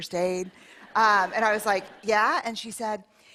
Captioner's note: laughter